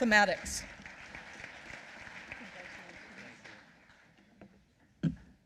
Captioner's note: applause